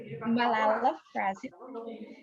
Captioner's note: non-english